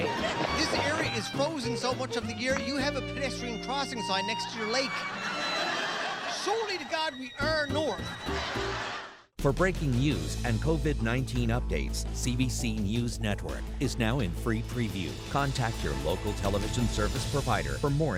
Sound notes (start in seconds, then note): 4.8 audience laughter